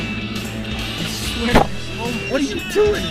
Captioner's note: clunk